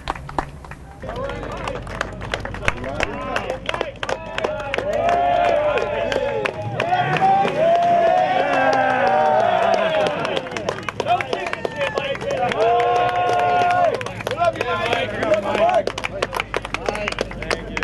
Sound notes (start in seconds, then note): 0.2 applause; 6.4 applause and cheering; 16.1 applause and cheering